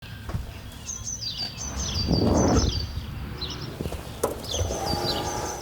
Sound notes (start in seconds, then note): 2.1 birds chirping